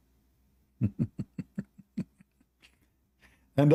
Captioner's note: Ketawa